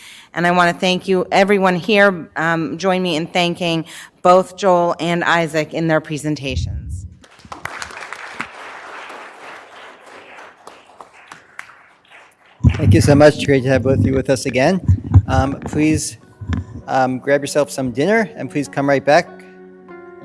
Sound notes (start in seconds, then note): 7.1 audience clapping